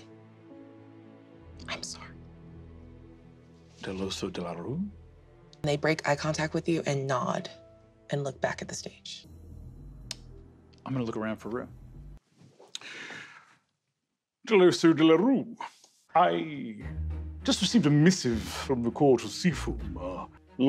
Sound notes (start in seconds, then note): 0.3 dramatic music; 9.6 smacks lips; 12.7 inhales